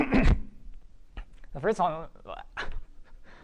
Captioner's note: stammering